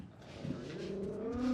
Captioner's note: dog growling